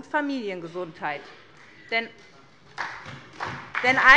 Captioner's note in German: Beifall bei der SPD